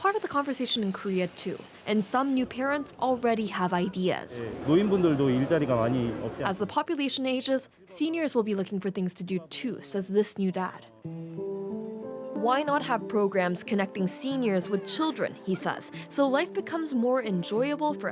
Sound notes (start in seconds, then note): 6.7 speaking Alternate Language